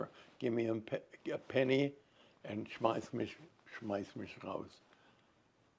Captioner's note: german